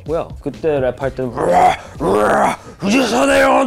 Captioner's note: growling; speaking in foreign language